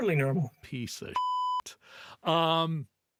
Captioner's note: beep